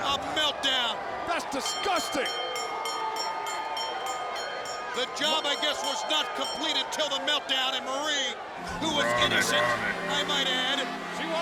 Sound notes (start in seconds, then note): 1.6 bell rings; 2.4 crowd boos